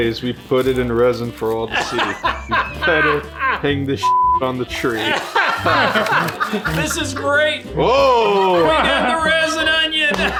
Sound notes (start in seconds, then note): 4.0 beep; 4.9 dad laughing